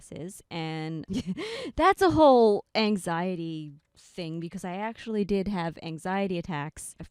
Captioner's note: laughing